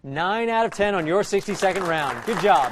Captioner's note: applause